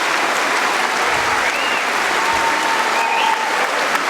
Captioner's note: cheering & Applause